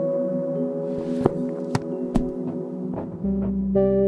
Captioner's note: books closing